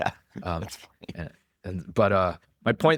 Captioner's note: laughs